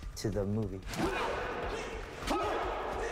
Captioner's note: all grunting